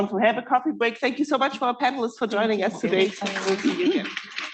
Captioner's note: applause